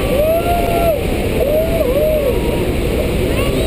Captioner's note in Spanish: Gente animando